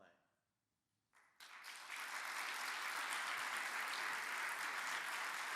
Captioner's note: audience applauds